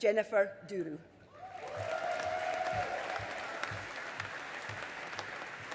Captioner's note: audience applauding